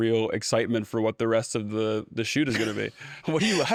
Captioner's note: laughs